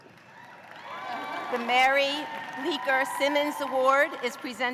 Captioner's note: cheers and applause